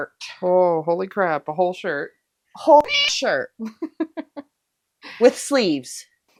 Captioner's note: meow